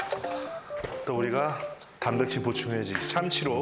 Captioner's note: talking to himself